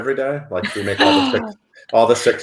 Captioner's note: gasps